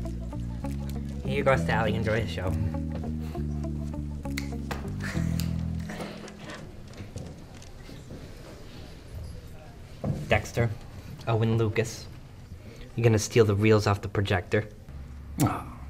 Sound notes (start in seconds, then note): 4.2 finger snapping